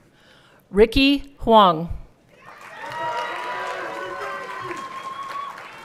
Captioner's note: everyone cheering